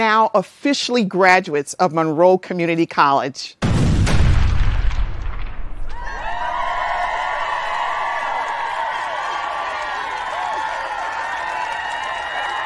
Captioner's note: sound of explosions and cheering